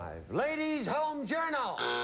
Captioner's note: buzzer